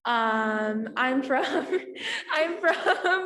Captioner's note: laughs